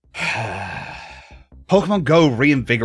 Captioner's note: sighs